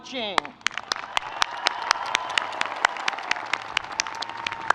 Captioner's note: audience cheering